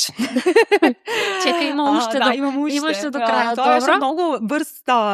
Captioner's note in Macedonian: смеа